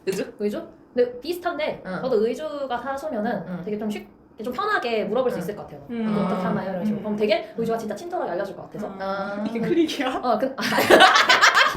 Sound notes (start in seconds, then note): 10.7 laughs